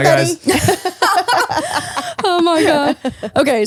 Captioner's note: all laughing